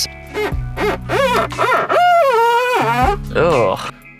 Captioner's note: finger squeaks